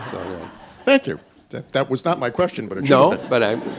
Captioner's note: laughter